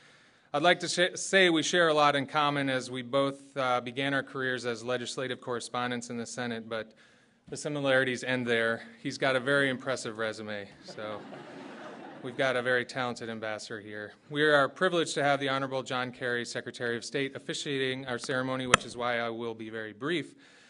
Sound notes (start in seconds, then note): 10.7 laughter